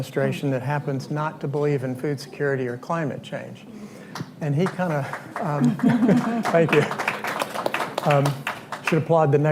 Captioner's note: applause